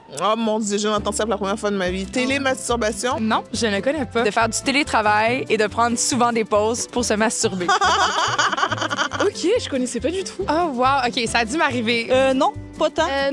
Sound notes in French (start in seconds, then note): 7.6 rires